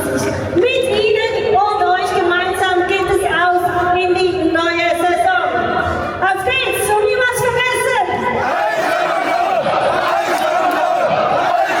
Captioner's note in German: Jubel